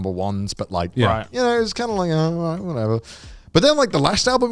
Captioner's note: blabbers